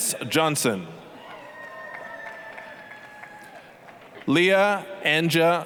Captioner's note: applause, cheering